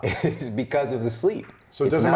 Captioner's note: laughs